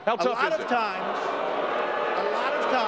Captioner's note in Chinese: 觀眾噓聲